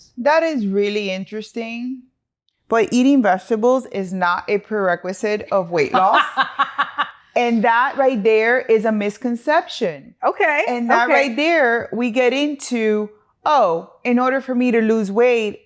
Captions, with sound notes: That is really interesting, but eating vegetables is not a prerequisite of weight loss. (laughing) And that right there is a misconception. Okay, okay. And that right there, we get into, "Oh, in order for me to lose weight,